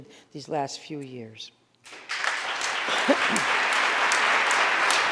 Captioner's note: audience applauding